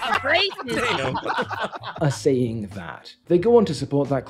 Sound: laughing

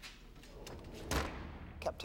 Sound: door shuts

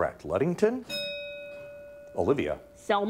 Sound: bell ringing

